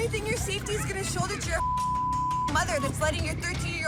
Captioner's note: beep